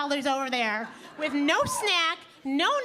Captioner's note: audience laughing